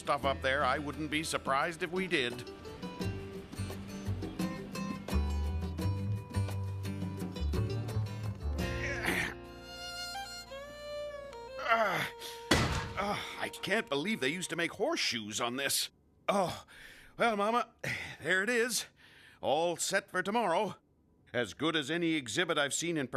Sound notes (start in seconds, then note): 13.5 grunting; 17.0 groans